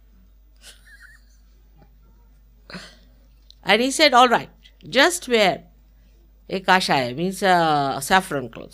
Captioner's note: Shri Mataji laughing